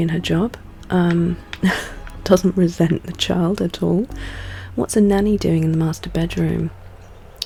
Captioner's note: laughs